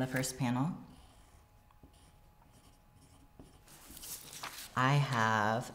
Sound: pencil scratching

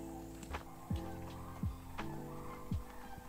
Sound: sandhill Cranes calling

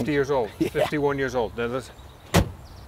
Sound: laughing

